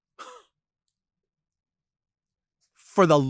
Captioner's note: scoffs